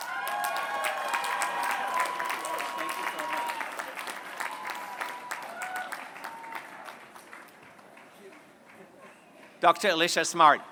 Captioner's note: applause